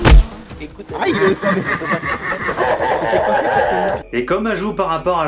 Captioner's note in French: Rire démoniaque